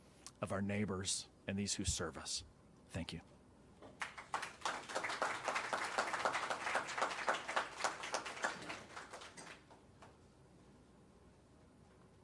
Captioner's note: applause